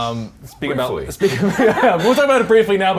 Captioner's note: laughs